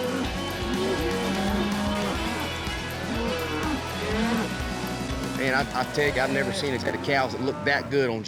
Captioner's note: mooing